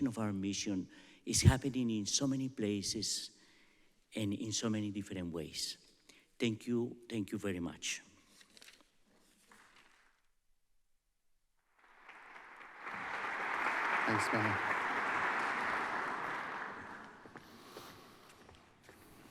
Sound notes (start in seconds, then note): 11.6 applause